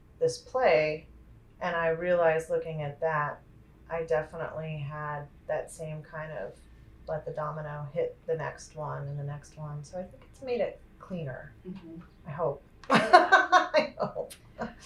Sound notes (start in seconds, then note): 12.9 laughs